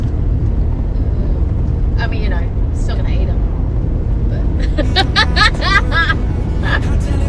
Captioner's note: cackles loudly